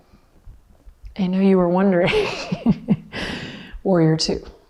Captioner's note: chuckles